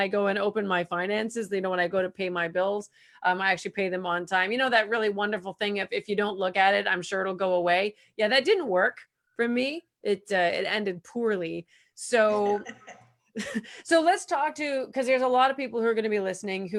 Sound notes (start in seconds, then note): 12.4 laughs